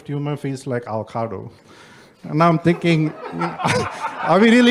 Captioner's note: background laughter